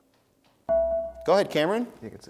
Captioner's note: dinging